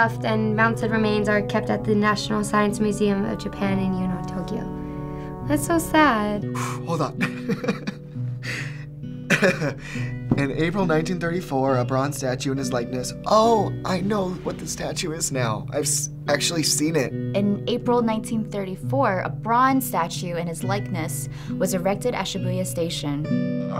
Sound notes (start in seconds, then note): 6.7 exhales; 6.8 chuckles